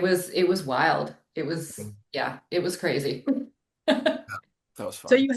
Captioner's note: chuckling